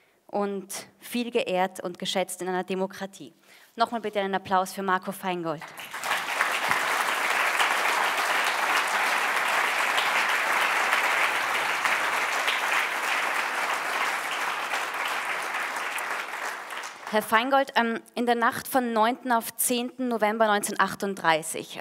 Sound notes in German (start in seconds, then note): 5.6 Applaus